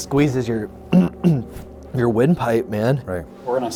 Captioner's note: clears throat